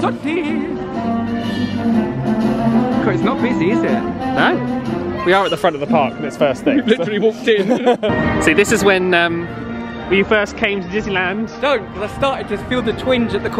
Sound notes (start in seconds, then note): 6.6 both laugh